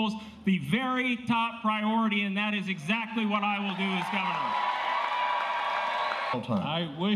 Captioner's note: applause